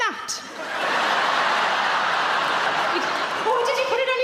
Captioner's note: audience laughing